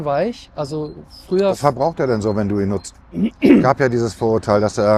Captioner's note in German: räuspern